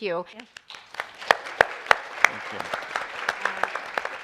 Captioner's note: all applauding